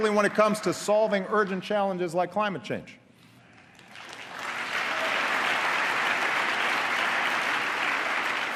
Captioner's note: applause